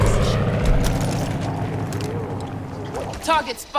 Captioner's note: gunshots